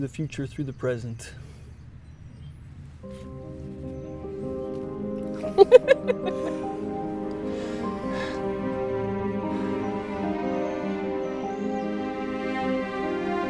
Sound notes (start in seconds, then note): 2.7 gentle music; 5.3 laughing; 9.5 sighs